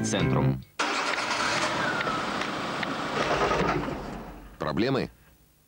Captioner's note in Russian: звук неудачи завода двигателя